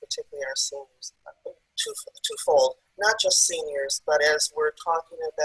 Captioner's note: audio is choppy